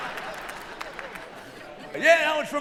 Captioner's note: laughter